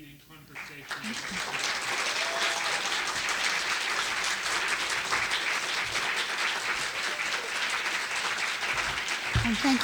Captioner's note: applause